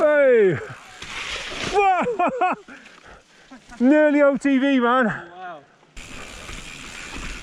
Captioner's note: laughs